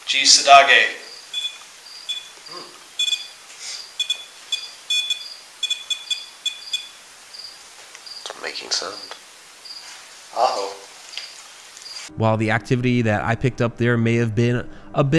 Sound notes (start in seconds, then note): 3.6 beeps